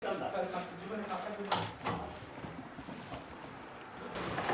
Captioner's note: indistinct conversation